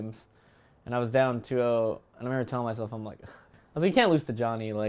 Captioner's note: sigh